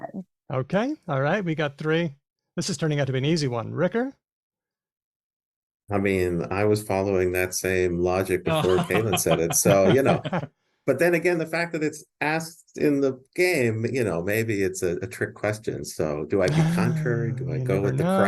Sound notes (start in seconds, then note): 8.4 laughter